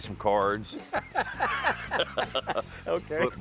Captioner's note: both laugh